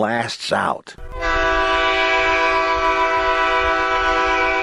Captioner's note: horn blasts